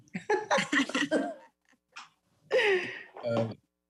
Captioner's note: laughs